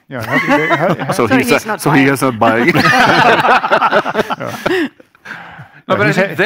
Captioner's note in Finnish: Laughter